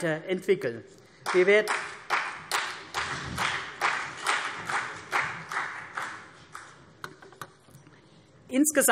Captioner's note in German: Beifall CDU und vereinzelt BÜNDNIS 90/DIE GRÜNEN